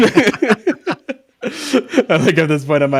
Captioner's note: laughing